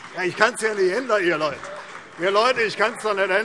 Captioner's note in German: Vereinzelter Beifall CDU und BÜNDNIS 90/DIE GRÜNEN